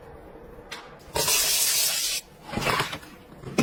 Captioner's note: scrubbing, water pouring